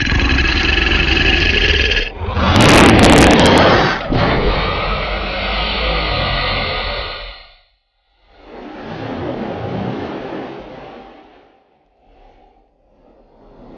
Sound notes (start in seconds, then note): 0.0 snarling; 2.7 guns firing